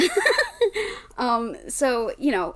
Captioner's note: laughs